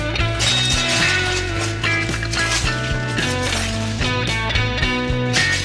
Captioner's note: bag continues crinkling